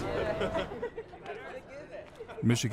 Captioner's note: students laughing